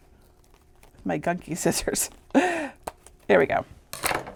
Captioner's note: chuckling